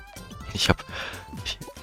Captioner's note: breath